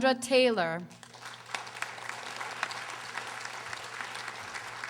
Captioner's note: audience applauding